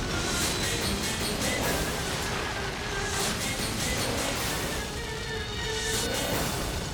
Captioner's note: fast chaotic music; fire sizzling